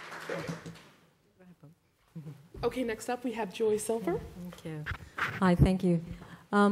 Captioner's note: applause